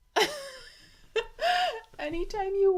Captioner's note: laughs indulgently